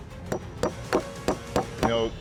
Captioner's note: hammering